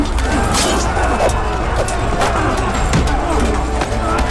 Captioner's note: suspenseful music playing; grunting